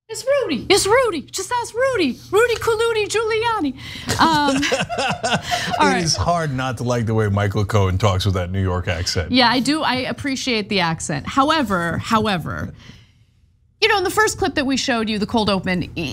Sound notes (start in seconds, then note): 4.0 laugh